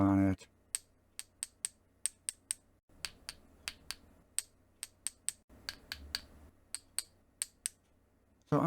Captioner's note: tapping